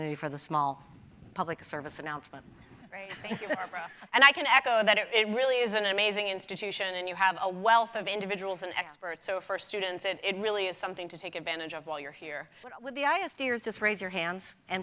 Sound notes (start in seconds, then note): 3.2 panel laughing